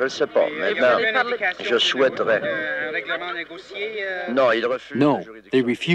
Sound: reporters speaking in foreign language

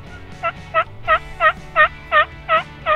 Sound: turkey call noise

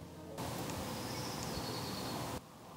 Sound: birds chirping

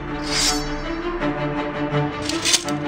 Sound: dramatic music; sword unsheathes; sword clinks

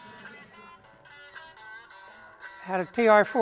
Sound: audience laughter

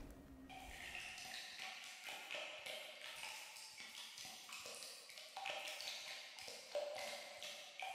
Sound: sound of water dropping

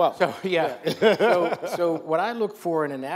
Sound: laughs

